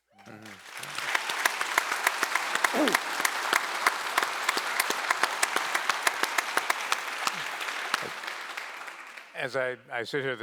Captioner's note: applause